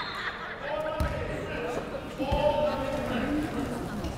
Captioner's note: yelling